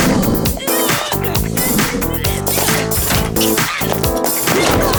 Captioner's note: grunting